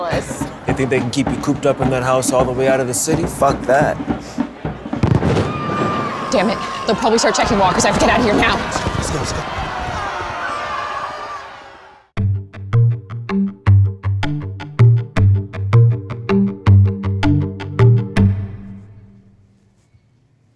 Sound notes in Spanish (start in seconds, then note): 4.6 disparos o petardos sonando, la multitud se dispersa; 9.9 la multitud se dispersa, hay gritos